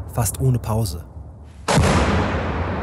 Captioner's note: crashing